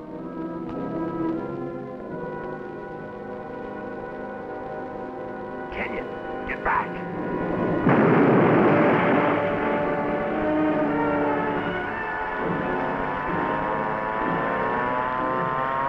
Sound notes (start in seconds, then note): 0.2 grim music; 7.3 bomb explodes; 13.2 alarm sounds